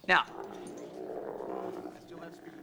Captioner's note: llama groaning